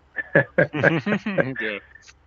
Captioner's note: both laughing